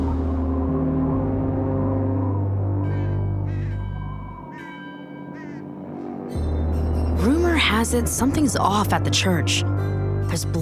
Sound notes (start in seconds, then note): 2.0 ominous music playing; 5.2 crows squawking; 6.3 bells ringing